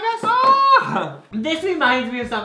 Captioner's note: squeals